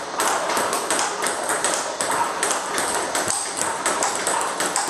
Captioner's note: ball ping pong hitting continues